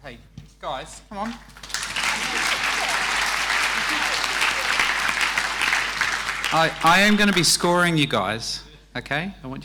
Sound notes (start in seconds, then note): 1.2 audience applauding